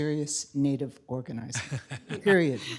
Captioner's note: laughter